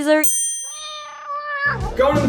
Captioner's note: ding; meow